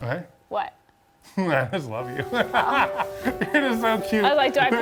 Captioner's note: laughs